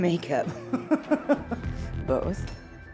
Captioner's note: laughs